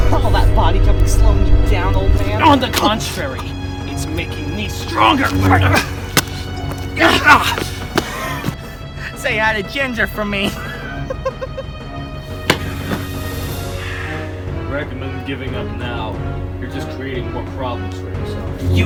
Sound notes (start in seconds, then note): 10.5 laughs